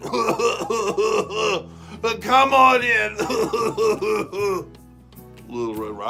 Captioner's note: coughing; more Coughing